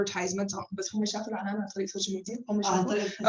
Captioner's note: non-english speech